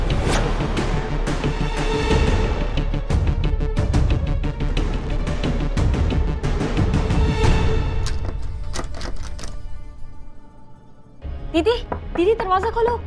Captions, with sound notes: [tense music] [door lock sound] Sister, open the door.